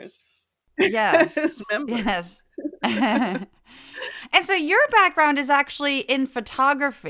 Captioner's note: laugh